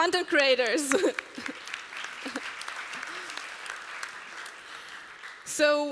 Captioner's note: applause